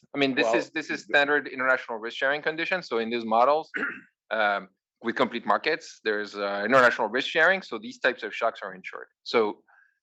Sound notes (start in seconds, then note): 3.7 cough